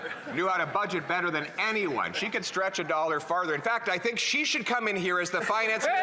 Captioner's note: laughter